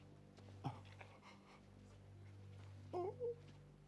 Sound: continues whimpering

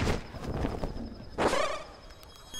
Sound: magical zap

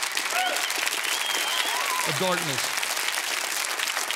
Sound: congregants applaud

